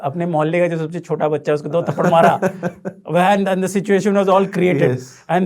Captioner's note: laughing